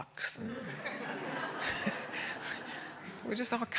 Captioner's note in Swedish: alla skrattar